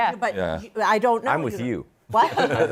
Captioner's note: laughter